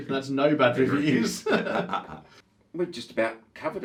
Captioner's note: both chuckles